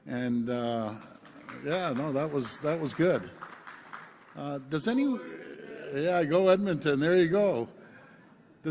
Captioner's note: applause